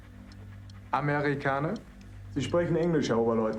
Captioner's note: speaking german